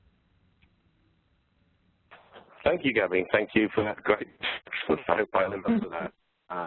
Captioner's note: distorted audio